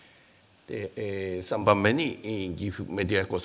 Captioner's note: speaking japanese